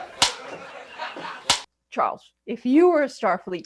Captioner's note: click